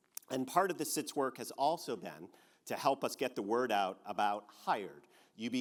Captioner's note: none